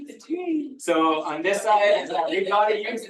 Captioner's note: audience laughing